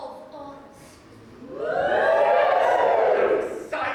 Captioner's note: audience whoop